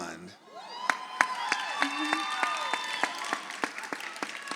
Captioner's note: audience applauds